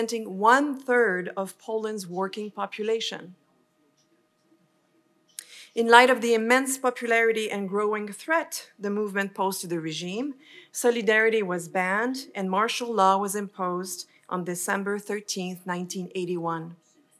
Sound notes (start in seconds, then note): none